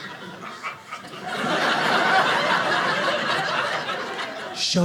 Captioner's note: audience laughing